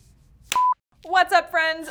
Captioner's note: beep